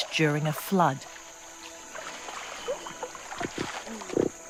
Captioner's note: water rustling